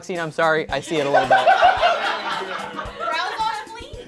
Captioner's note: laughter